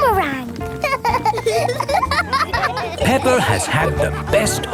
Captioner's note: laughing